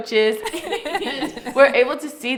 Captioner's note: all laugh